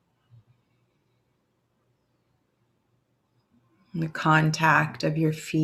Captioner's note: silence